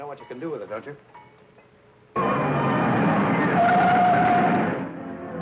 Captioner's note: tires squealing; upbeat music